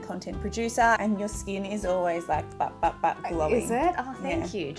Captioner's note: imitates bopping